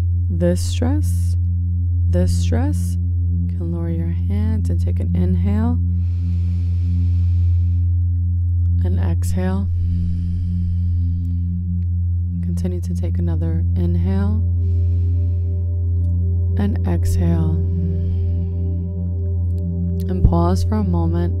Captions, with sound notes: this stress, this stress. And lower your hands and take an inhale. (inhales deeply) And exhale. (exhales deeply) Continue to take another inhale and exhale. And pause for a moment.